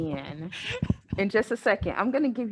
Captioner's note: laughs